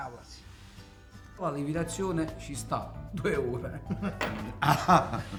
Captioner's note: ironic laugh